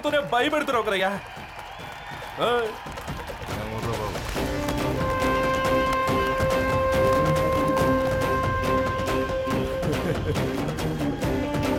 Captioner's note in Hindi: तालियाँ